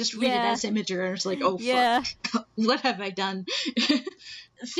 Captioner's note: laughing